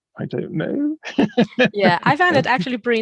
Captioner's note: laughing